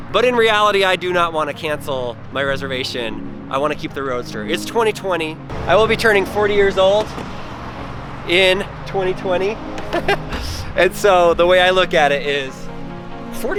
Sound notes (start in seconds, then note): 9.8 laughs